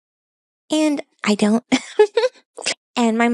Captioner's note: laughs